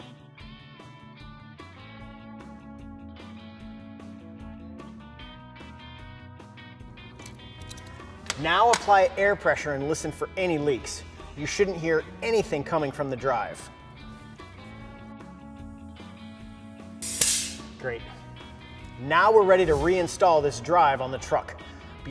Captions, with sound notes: Now apply air pressure and listen for any leaks. You shouldn't hear anything coming from the drive. (rock music) (air releases) Great. Now we're ready to reinstall this drive on the truck.